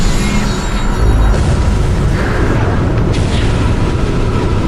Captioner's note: explosions blasting